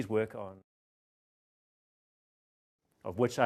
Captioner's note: audio fades out, silence